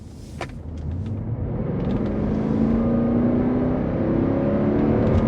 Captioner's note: engine revving